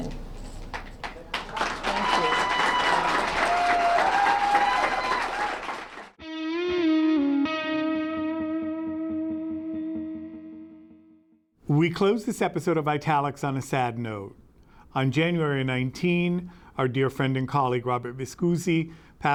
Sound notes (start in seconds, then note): 3.4 cheering and applause